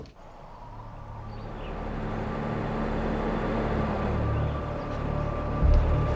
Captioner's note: traffic passing; birds tweeting